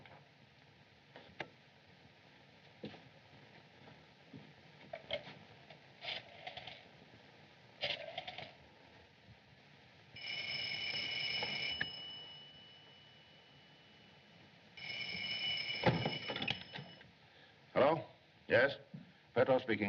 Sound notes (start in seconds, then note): 10.2 ringing